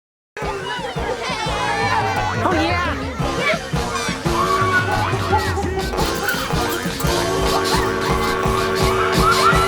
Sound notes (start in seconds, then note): 0.6 children exclaiming; 1.0 whimsical music